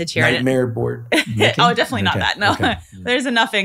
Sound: laughs

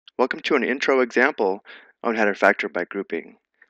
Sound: voiceover

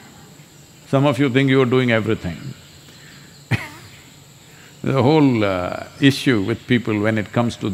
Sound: laughs

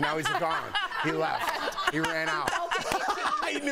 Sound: laughter

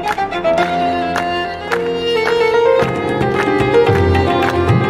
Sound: audience rhythmically clapping; lively instrumental music

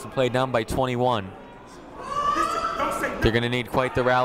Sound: shouting

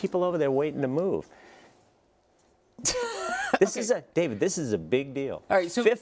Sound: laugh

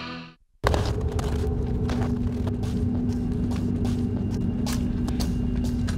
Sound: hurried footsteps

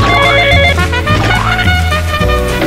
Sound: phone ringing; trumpets playing; cartoon splat; trumpets playing

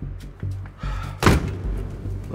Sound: heavy sigh

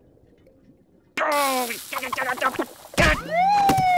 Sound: grunting; police siren blaring

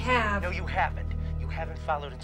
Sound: on phone

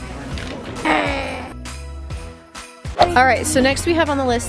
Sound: grumbles

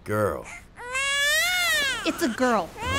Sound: baby cries

